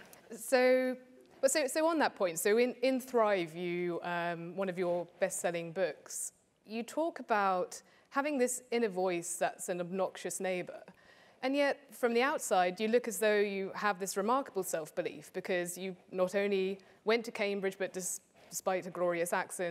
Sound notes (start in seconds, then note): none